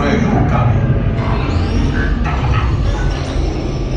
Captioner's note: robot beeping